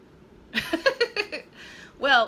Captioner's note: laughing